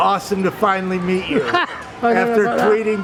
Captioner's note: laughing